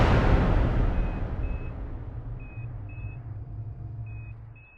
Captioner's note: beeping